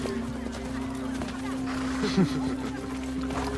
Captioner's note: Dothraki men laughing